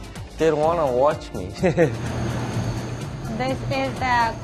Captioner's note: chuckles